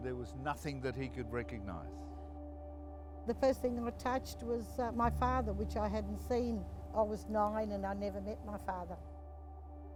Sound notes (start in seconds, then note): 3.4 another woman's voice